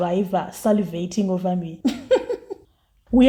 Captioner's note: laughs